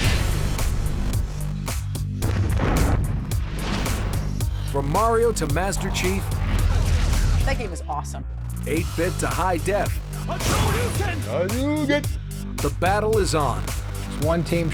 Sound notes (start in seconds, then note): 0.1 explosion; 2.2 gunshot; 6.4 explosion